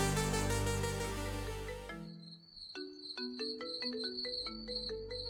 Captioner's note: phone rings